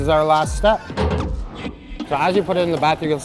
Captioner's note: machine clanging